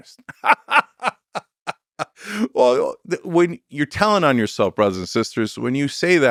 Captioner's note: laughs